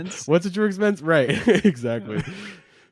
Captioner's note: laughs